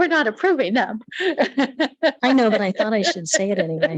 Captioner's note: light laughter